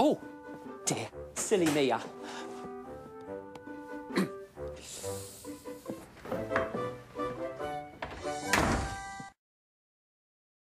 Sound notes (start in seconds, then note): 4.1 mr. perkins clears throat, embarrassed